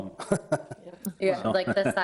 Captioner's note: people chuckling